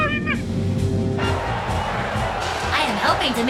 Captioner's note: crowd cheering